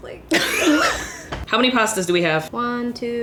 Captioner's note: both laughing